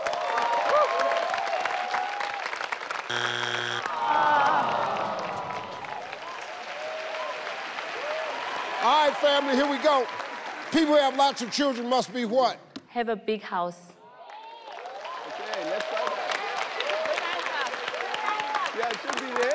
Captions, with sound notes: (people applauding) (people gasping) - All right, family, here we go. People who have lots of children must be what? - Have a big house. (people applauding)